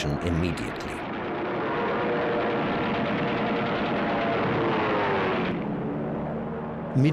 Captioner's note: plane engine roars